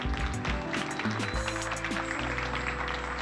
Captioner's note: clapping